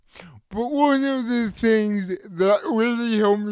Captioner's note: none